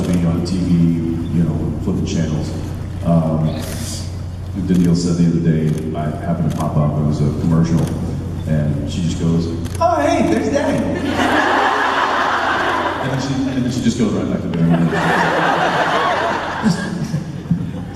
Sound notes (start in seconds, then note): 10.7 crowd laughs